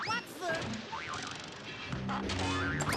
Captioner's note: crashing